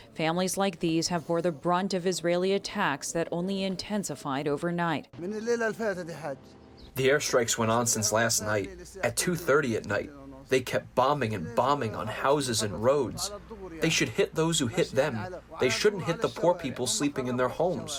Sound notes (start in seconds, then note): 6.1 through translator